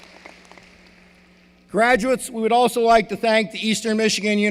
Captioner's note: applause